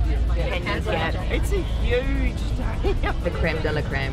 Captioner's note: laughs